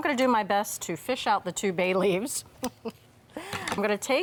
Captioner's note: chuckles